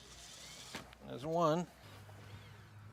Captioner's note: drill whirring